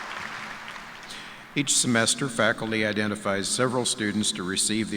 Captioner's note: applause